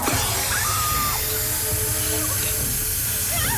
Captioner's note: screams